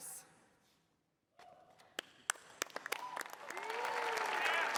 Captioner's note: cheering